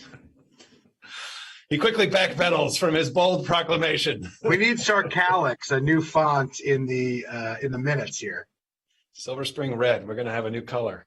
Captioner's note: laughing